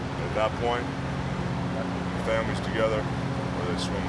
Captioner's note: none